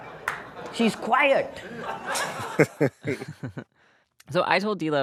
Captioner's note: laughter